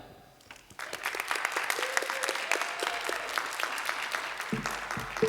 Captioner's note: applause